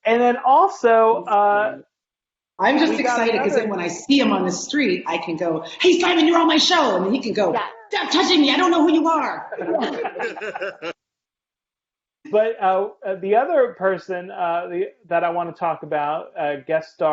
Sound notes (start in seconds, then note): 9.3 laughing